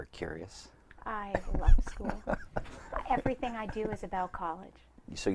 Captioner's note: laughs